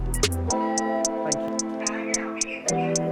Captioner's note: beeping sound